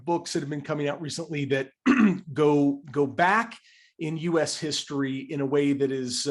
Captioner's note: cough